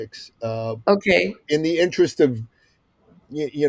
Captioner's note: laughs